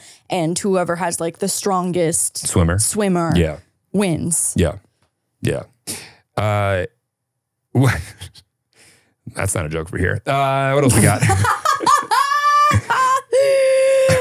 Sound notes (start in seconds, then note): 7.7 chuckles; 11.0 laughing